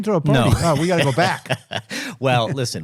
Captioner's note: laughing